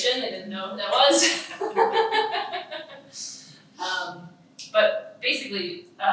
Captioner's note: laughing